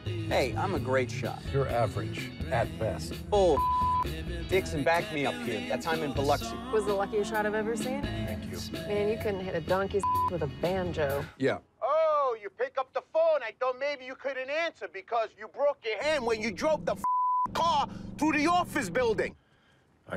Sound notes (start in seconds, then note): 3.5 beeps; 10.0 beep; 16.8 beeps